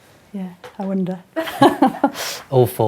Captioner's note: chuckles loudly